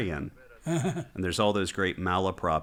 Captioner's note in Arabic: يضحك